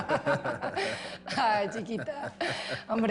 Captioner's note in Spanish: Risas